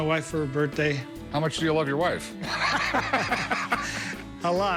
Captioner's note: laughter